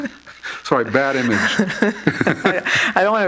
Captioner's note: laughter